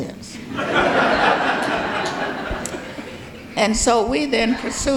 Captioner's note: audience laughing